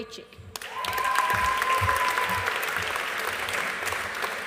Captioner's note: audience applauding